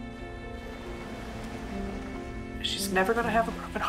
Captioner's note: waves crashing